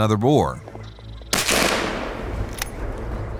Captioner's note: gunshot